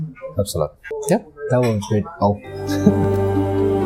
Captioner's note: laughs